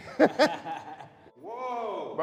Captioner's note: laughs